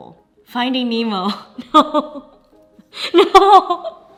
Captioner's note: laughs